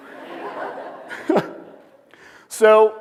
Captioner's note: laughter